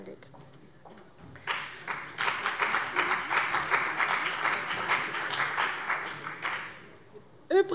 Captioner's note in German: Beifall bei der CDU und dem BÜNDNIS 90/DIE GRÜNEN